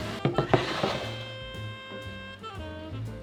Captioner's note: bowl sliding